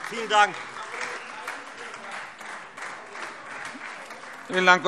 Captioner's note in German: Beifall Freie Demokraten und vereinzelt AfD